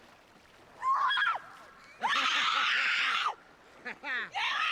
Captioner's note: woman screams; man laughs